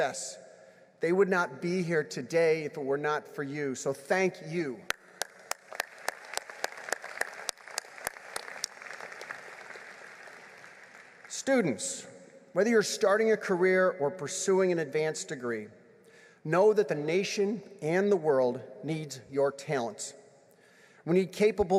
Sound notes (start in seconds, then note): 9.6 applause